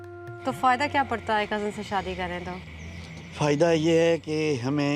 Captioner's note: speaking in foreign language